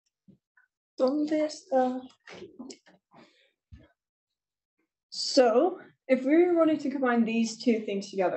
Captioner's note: speaking spanish